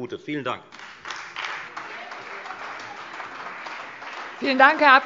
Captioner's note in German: Beifall Freie Demokraten und AfD